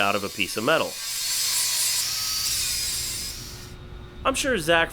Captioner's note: grinder doing it's noise... again